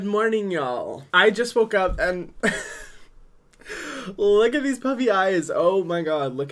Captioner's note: laughs